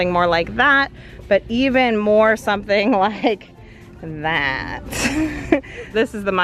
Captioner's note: laughs